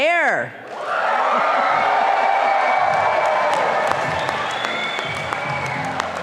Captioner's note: audience applauding and cheering